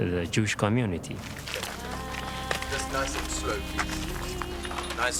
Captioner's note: steps, talking